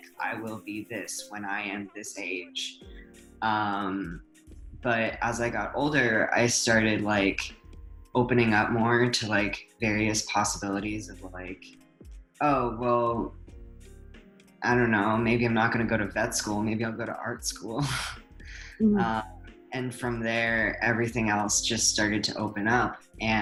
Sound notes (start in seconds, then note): 18.0 chuckles